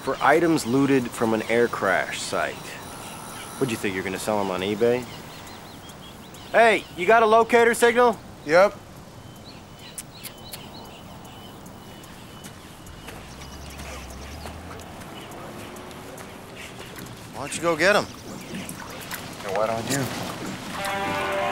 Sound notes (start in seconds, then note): 9.8 clicking tongue